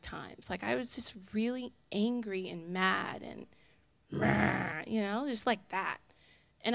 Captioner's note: growls